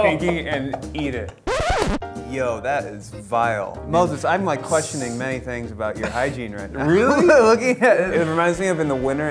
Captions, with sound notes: - No! - And eat it. (record scratching) Yo, that is vile. Mostly, I'm like questioning many things about your hygiene, right now. - Really? - Well, looking at it, it reminds me of in the winter,